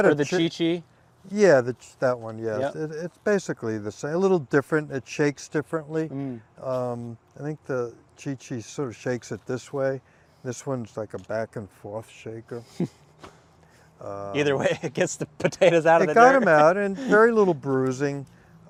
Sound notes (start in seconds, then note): 14.4 laughing; 15.4 laughs